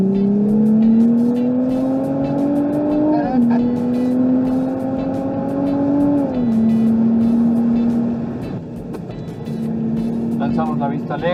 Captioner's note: engine roaring